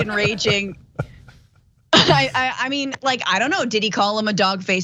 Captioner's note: laugh